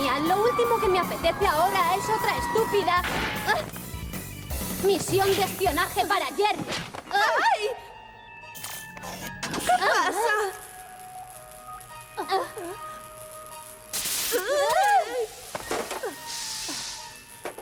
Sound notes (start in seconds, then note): 13.6 zaps